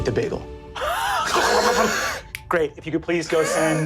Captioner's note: all laugh